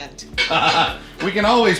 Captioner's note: laughter